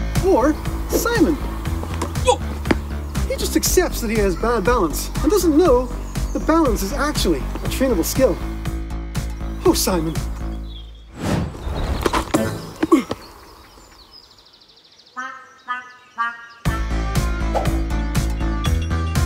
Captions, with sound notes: Or Simon. - Oh. - He just accepts that he has bad balance and doesn't know that balance is actually a trainable skill. Oh, Simon. (air rushing) (playful music) (upbeat music)